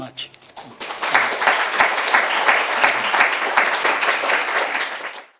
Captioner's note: applause